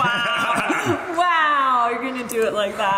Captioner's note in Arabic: يضحك